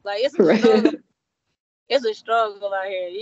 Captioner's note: laughing